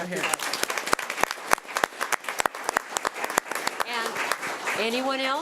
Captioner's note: audience applauding